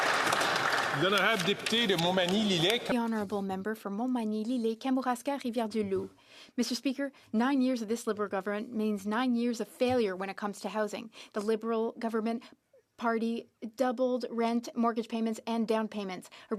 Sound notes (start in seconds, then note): 0.0 some Applause; 7.0 speaking French